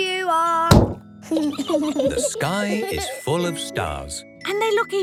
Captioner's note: giggling